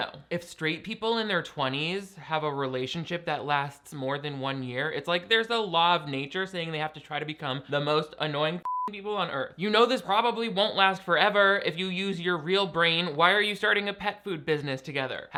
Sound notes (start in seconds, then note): 8.6 beep